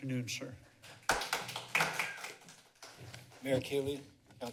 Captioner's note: applause